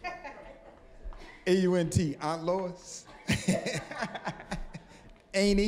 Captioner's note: scattered laughing; laughing